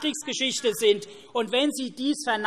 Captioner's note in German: Zurufe SPD